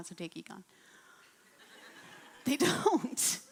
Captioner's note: laughing